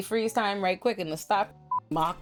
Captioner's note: beep